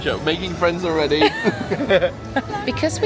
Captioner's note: both laughing